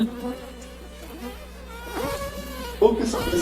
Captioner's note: high-pitched buzzing